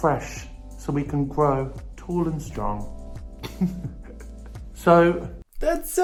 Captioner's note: chuckles